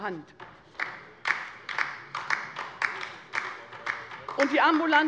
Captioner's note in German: Beifall bei der LINKEN